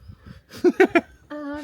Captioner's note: laughs